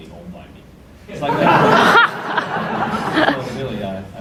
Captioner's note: audience laughter